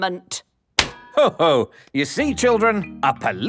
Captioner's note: slaps